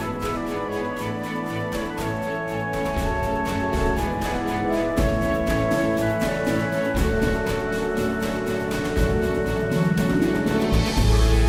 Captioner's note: applause